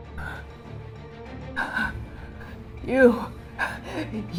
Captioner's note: strained breathing